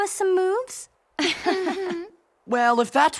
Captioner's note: chuckles